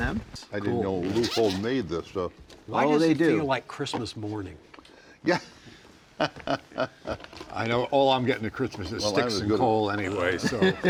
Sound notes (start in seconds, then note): 1.0 zipper unzips; 5.4 panel members laugh; 10.3 panel members laughing